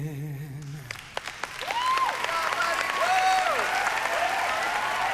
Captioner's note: cheering and applause